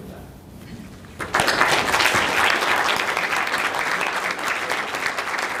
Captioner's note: audience applauding